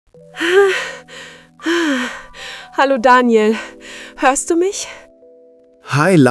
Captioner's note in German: atmet schwer